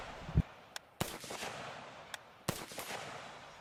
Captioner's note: gunshots firing